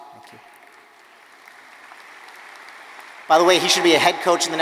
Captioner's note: audience applauding